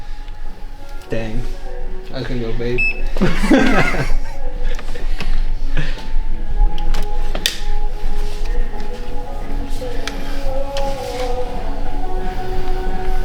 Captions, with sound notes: Dang, I couldn't go, babe. (Laughing) (Upbeat Music)